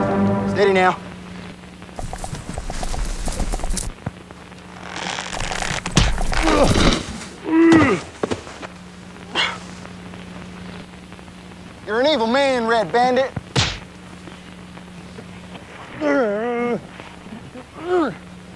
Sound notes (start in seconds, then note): 4.8 rope tightening; 5.3 thudding; 13.5 punch landing; 17.0 grunting